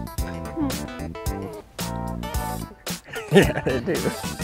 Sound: laughs

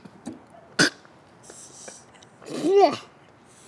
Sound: gags

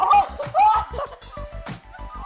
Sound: screaming; both laughing

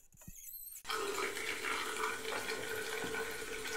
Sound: water trickling

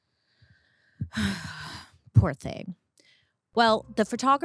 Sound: sighs

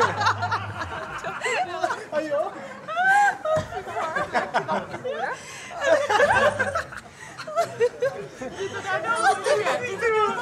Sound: everyone laughs

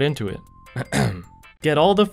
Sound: ahem

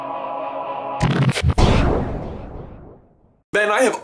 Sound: disc scratch and echoing thud

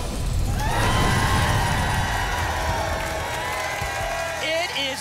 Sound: audience applause

